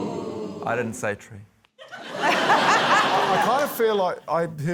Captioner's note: laughter